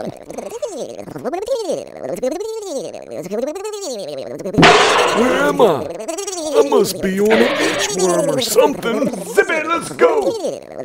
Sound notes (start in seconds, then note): 4.6 slam; 7.3 skid